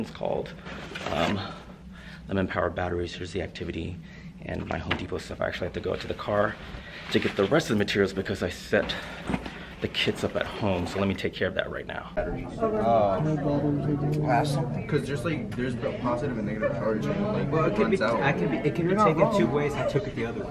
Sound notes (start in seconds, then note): 13.0 class discussion